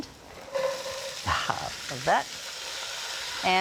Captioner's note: food sizzling